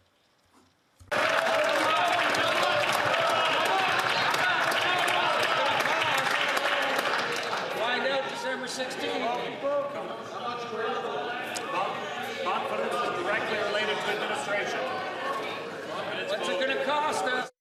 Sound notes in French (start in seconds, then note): 4.9 applaudissements